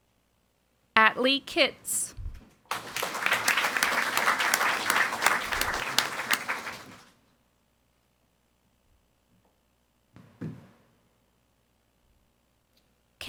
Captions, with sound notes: Atlee Kitts. (audience applauding)